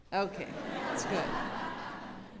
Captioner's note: laughter